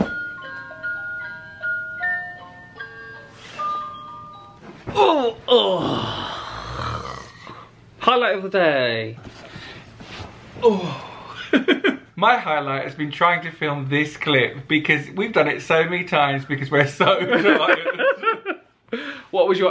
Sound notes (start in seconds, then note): 4.9 grunts; 5.5 exhales; 11.6 laughs; 17.0 pair laughs